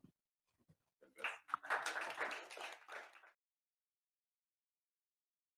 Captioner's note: audience applauds